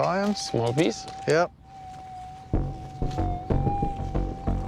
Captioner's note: humming